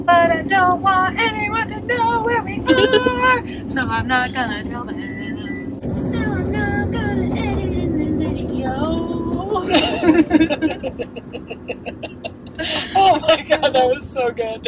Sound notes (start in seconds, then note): 9.6 laughing